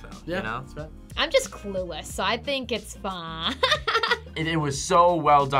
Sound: laughs

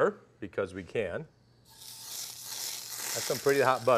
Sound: sizzling

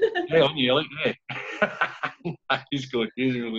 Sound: laughing

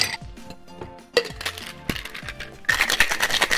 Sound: ice clinking

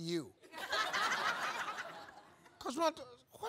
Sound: audience laughs

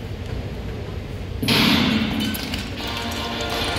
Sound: starting gun sounds

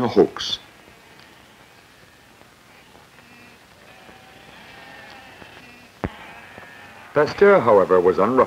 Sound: sheep bleating

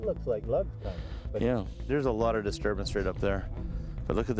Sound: voiceover

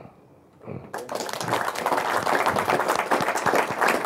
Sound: applause

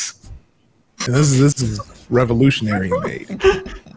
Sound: players chuckling

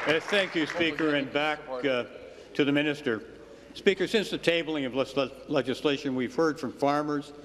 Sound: applause

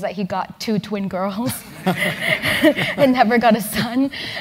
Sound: laugh

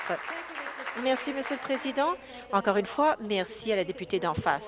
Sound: applause

